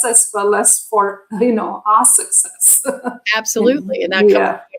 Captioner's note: laughter